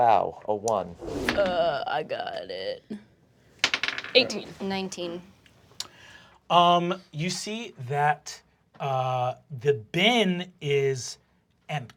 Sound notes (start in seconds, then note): 1.2 dice bouncing; 3.6 dice bouncing